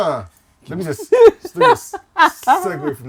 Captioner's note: laughter